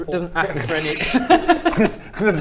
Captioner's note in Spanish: risas